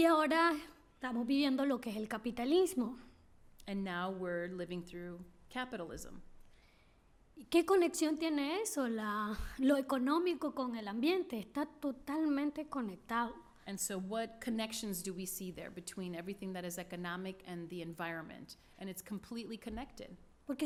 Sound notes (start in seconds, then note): 0.3 speaking spanish; 7.8 speaking spanish